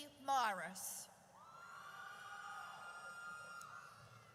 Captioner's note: audience cheers